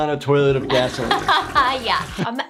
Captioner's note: she laughs